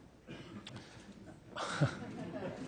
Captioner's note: laughter